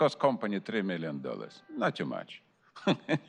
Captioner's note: laughter